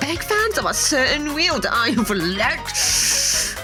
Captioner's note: hissing